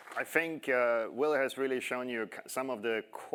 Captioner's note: applause